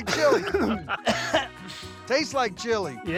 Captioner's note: coughing